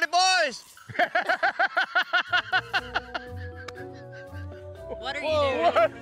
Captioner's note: laughs